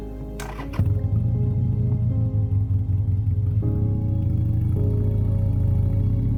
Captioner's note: motorcycle engine rumbling; somber music